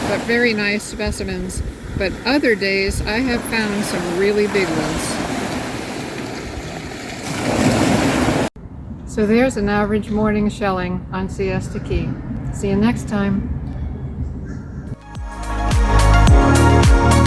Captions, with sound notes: but very nice specimens, but other days, I have found some really big ones. (surf roars) So there's an average morning of shelling on Siesta Key. See ya next time. (upbeat uplifting music)